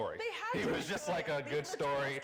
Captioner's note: speaks faintly